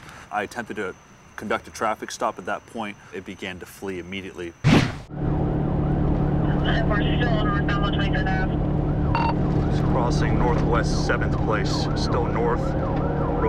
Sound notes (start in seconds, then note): 4.9 sirens wailing; 6.3 police radio chatter